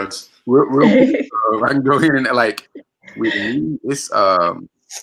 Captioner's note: murmurs